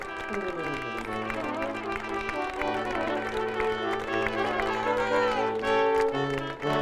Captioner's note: audience applauding; upbeat processional music